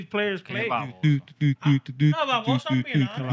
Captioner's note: humming